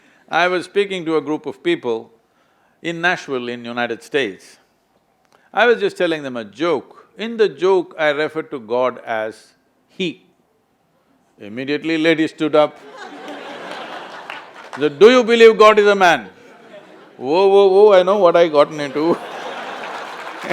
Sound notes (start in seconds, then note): 12.7 laughter; 18.6 laughter/Applause